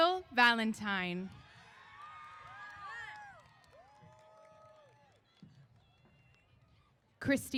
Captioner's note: applause & Cheers